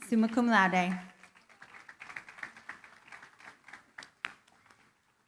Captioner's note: applause